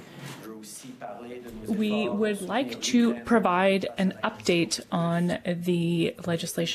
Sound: speaking French

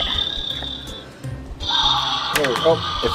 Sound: upbeat music; dinosaur growls

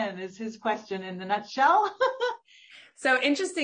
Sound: laughs

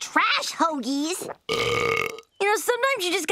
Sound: burping

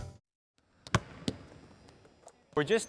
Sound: basketballs dribbling

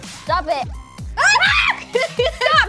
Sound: screaming

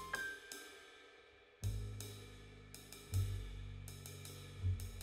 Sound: none

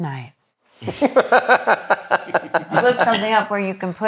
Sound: all laugh

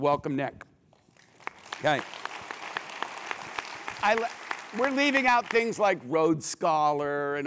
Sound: applause

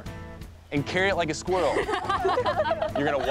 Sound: laughter

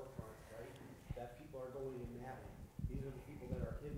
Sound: faintly speaking

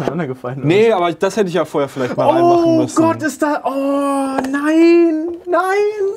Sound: distressed sounds

